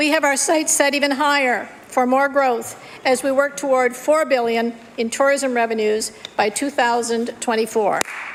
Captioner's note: applause